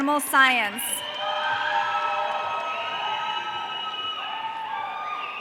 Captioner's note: audience cheering